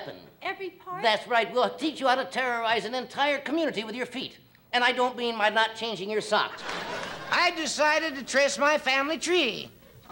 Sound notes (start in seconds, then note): 6.5 crowd laughing and clapping